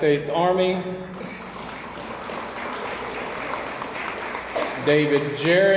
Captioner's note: audience applauds